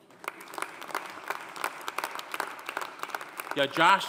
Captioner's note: audience applauding